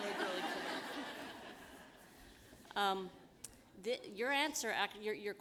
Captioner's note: laughter